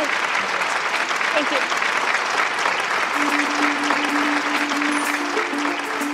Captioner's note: applause